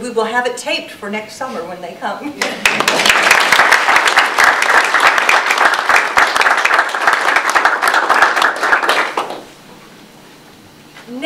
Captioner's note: audience applause